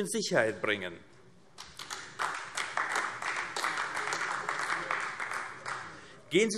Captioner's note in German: Beifall AfD